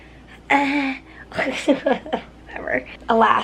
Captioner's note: chuckles